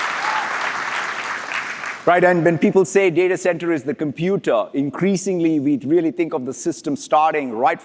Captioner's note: applause